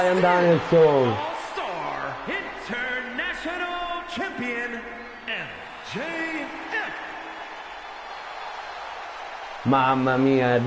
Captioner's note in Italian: Applauso